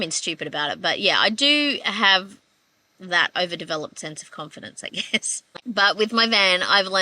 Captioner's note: laughing